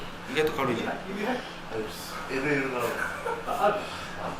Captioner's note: laughs